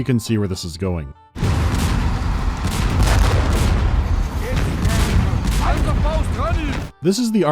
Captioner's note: cacophony of cannon and artillery fire